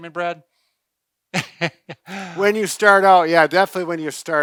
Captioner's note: laughs